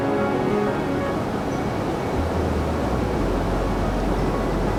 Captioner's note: water running